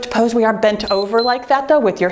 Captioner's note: timer beeps